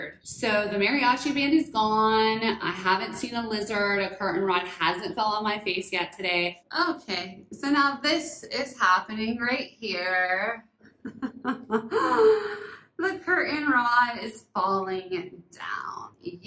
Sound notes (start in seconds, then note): 11.1 laughs